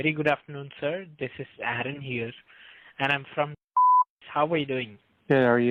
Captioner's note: beeps